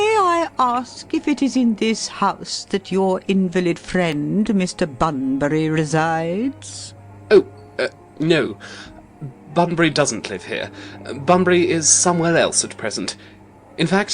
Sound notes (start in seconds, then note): 8.0 stammering